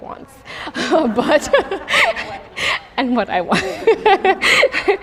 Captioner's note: laughs